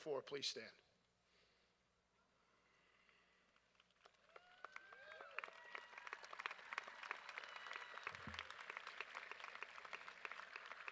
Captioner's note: applause